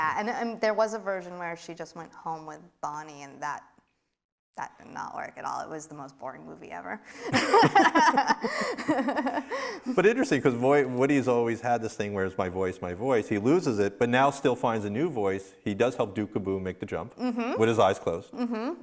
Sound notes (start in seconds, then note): 7.2 both laughing